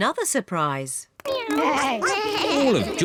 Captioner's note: all making animal sounds